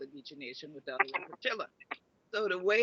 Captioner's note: speaks in foreign language